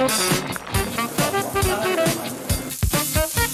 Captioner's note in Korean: 지글 지글